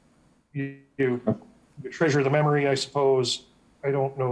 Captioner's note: audio warbling